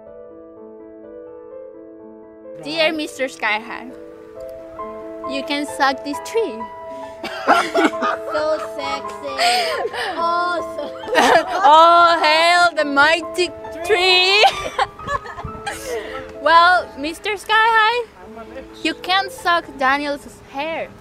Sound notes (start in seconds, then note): 7.2 laughter; 13.4 Nicole and JM laughing